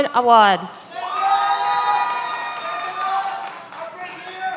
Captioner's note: many applauding